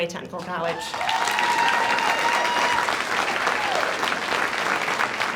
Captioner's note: audience applauds